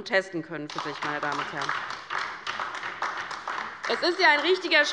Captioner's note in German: Beifall bei der LINKEN